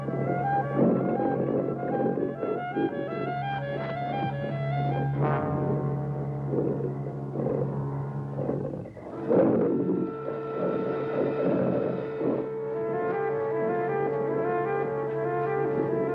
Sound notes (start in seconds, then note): 7.1 growling; 10.5 intense music